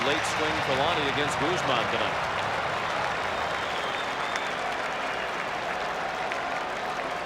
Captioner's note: applause